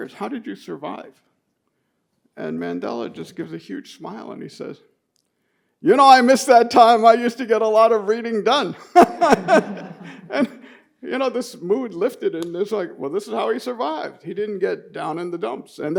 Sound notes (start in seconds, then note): 8.8 laughs